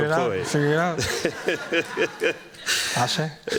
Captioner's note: laughter